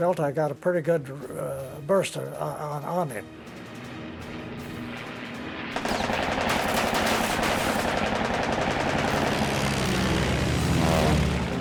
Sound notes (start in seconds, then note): 5.8 bullets whirring